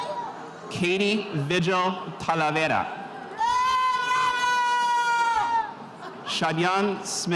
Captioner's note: spectators cheering